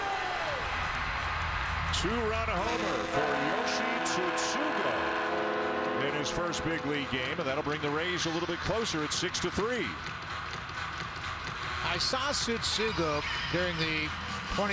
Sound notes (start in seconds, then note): 2.3 applause; 3.1 cheering and Applause